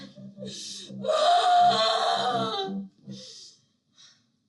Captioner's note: groans in pain